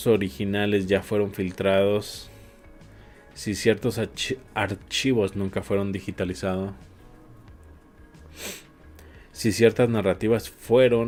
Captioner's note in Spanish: resoplido